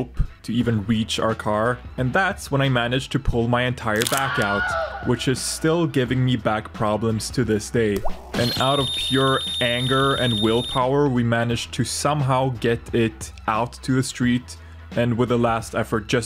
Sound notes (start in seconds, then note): 4.0 Crunch and Wilhelm Scream; 8.0 drip; 8.0 high pitched sound effect